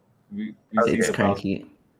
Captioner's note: speaking faintly